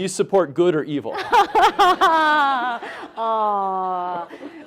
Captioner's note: laughing